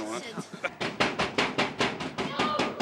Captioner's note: banging on door